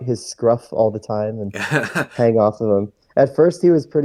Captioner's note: laughs